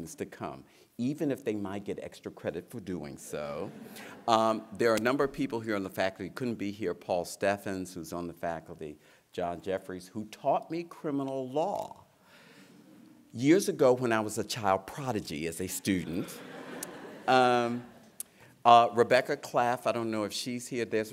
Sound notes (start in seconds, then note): 3.5 laughter; 16.0 laughter